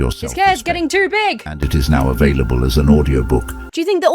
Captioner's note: AI Voice